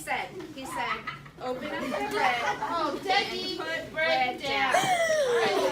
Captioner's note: more laughter